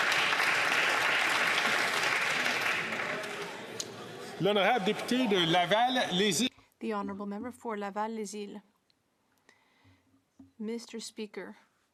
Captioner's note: some Applause